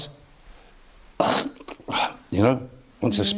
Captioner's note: coughs